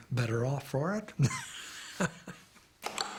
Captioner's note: chuckles